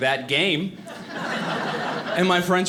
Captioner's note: audience laughing